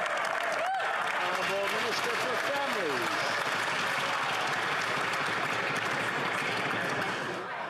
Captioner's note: yelling